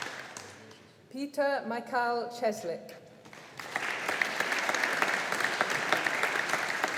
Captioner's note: audience applauding